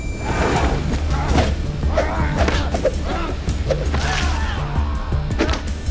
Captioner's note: dramatic music; Naga groaning